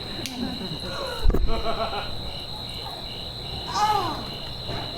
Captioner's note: fingers snap; Titania gasps; Titania groans